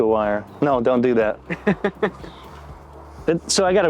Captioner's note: chuckles